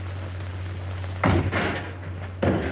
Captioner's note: crashing sound